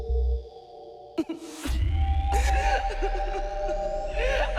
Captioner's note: crying sounds